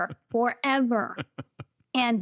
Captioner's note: chuckles